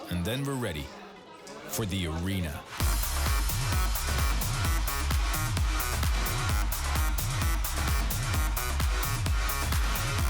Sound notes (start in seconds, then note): 2.7 energetic trance music; 2.9 loud cheering